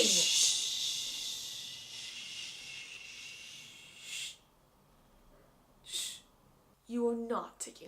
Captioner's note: shhushing continues